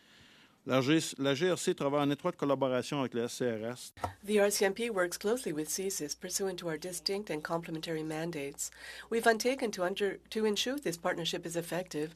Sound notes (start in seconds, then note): 4.9 speaking French